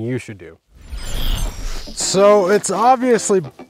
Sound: static shaking

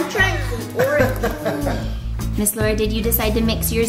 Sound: laughing

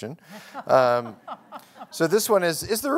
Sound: laughter

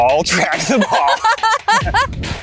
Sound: laughing; dramatic music

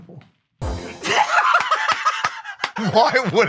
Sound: laughs

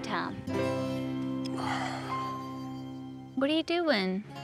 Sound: sighs

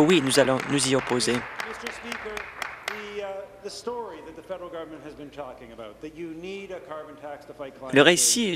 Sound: applause

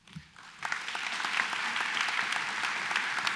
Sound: applause

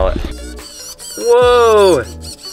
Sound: robot buzzing

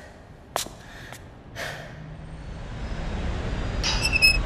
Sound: street noises rising; door opens

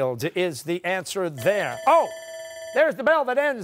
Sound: bell rings

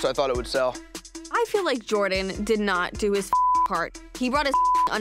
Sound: beep

